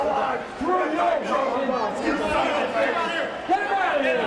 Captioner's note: all shouting